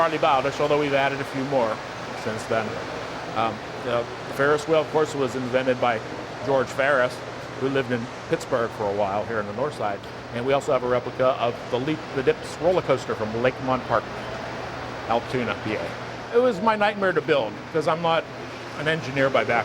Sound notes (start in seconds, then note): none